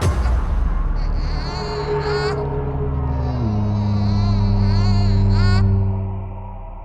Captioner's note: weak crying from baby